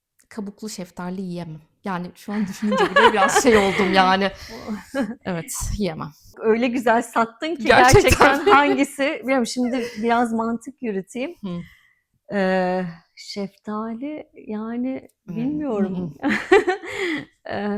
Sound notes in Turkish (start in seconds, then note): 2.4 kahkaha; 7.8 kahkaha; 16.2 kahkaha